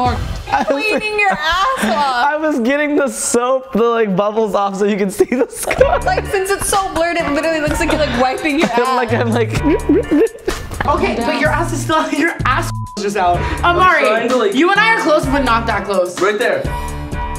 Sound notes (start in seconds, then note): 0.4 laughs; 5.2 laughs; 10.0 gurgles; 12.7 beep